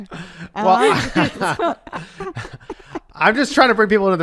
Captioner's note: laughs